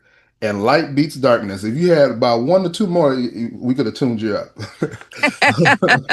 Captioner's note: laughter